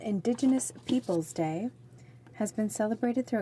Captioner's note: speaking French